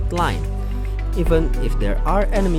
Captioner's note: inhale